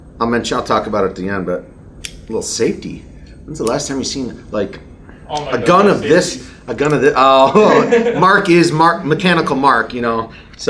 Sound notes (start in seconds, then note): 1.8 safety clicks; 7.4 laughs